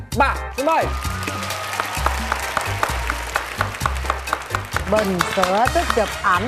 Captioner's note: clapping